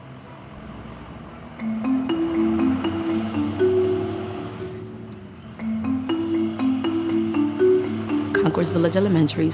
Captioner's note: sound of school bus